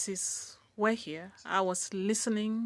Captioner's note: speaking in French